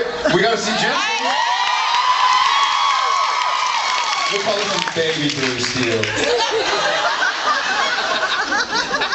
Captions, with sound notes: We gotta see Jensen. [screams and cheers] We call him baby blue steel. [laughs]